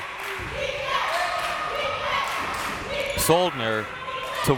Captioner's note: crowd members chanting